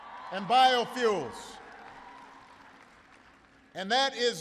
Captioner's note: applause